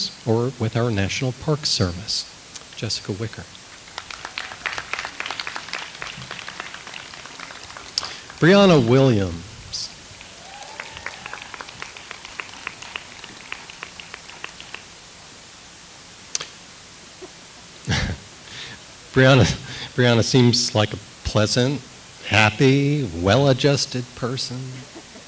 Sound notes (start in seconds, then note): 3.7 audience applauds; 17.8 laughs